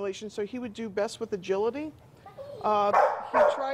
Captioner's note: dog barking